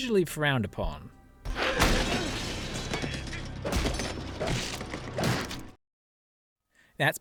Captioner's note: violent hitting sounds of violence